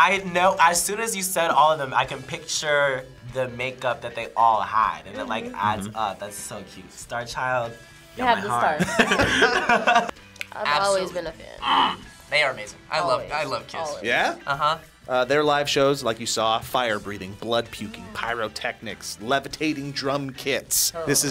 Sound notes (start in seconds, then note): 8.7 both laugh